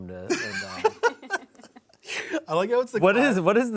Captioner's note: laugh